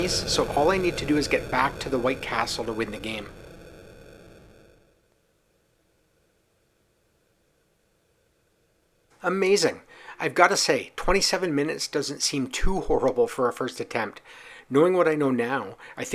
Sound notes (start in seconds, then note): none